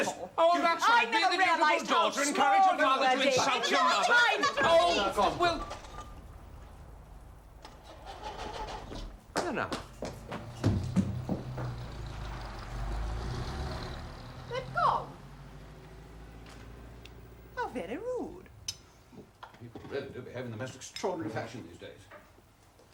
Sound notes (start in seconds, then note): 5.7 noise of starting car; 10.1 car motor runs, and car leaves